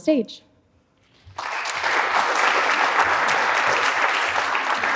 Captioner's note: audience applauds